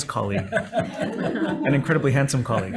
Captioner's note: laughter